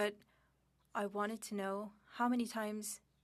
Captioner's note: speaking French